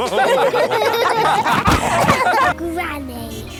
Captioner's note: all laughing